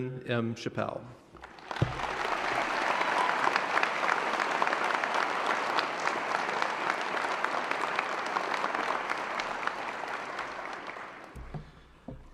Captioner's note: applause